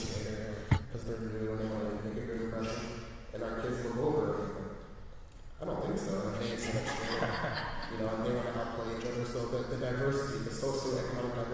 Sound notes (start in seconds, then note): 6.4 laughter